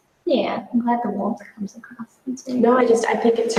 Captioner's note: murmurs